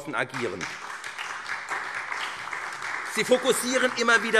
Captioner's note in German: Beifall